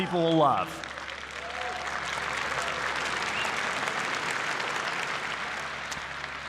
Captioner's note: applause